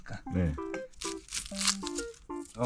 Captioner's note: cutting the onions